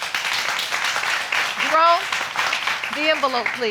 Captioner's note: audience applauding